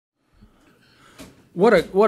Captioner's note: voiceover